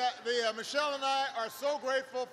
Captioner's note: laughter